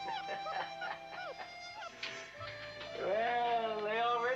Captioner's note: man laughs